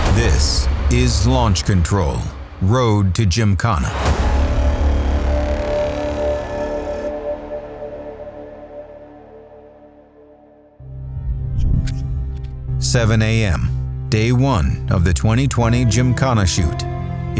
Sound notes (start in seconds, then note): 3.9 scene bangs; 10.7 soft music